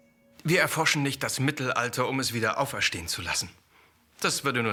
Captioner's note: speaking in foreign language